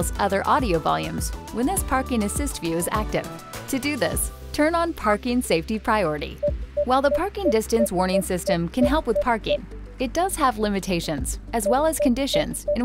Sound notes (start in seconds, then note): 6.7 car beeping; 6.7 PDW beeping; 12.5 PDW beeping